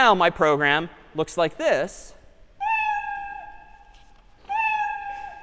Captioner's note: meowing